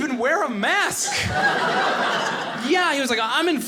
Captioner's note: audience laughing